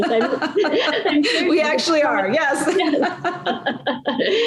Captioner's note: laugh